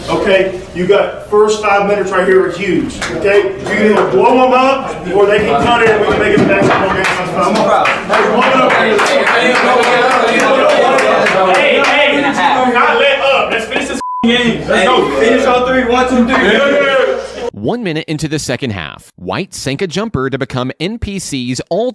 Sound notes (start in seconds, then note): 8.3 yelling and clapping